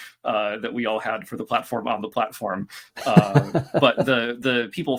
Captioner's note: laughter